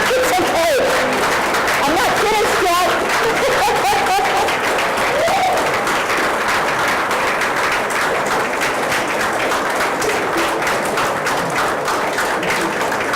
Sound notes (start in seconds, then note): 3.5 laughs; 6.3 applause